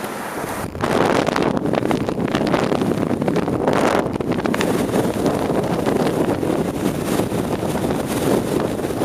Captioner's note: wind sounds